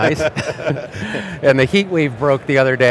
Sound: everyone laughs

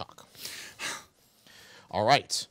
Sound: man sighing

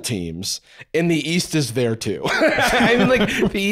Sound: laughs

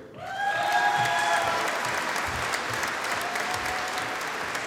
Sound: audience applauding

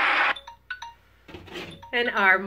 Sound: beeping

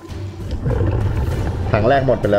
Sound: exhale

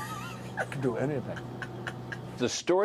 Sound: laughter

